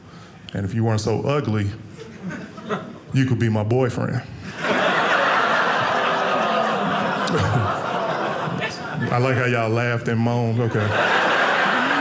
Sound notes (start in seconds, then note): 4.5 audience laughing